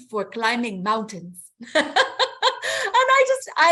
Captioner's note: laughs